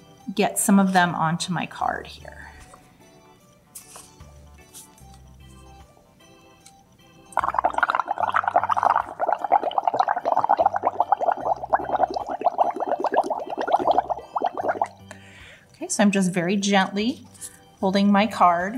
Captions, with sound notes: get some of them onto my card here. [bubbling sounds] Okay so I'm just very gently holding my card